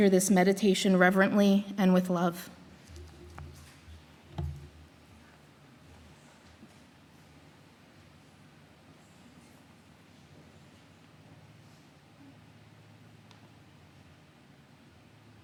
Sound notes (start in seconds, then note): 4.4 meditative Silence